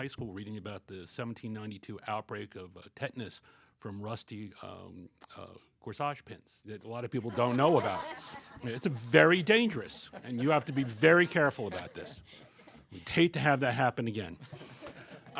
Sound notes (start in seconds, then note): 7.1 laughter